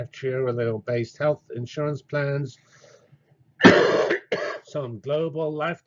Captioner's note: cough